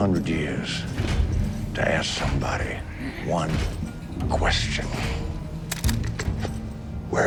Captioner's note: footsteps clanking; gun clicking